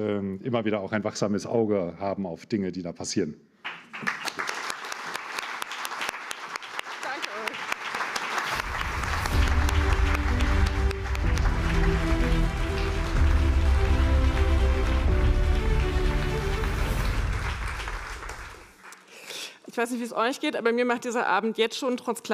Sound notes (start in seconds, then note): 7.9 applause